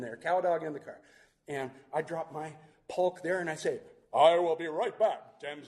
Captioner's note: superhero voice